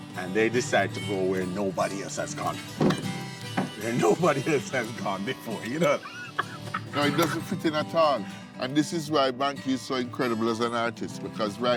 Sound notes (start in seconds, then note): 6.0 laughs